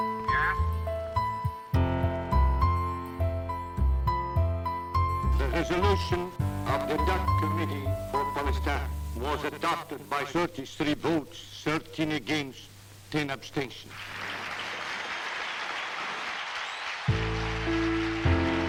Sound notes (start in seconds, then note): 13.9 applause